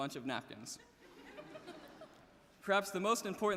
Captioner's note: audience laughing